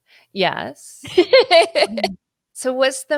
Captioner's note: laughing